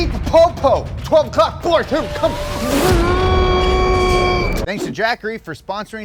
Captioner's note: mimics laser